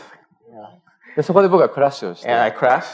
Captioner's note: speaking japanese